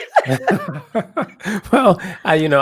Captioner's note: laugh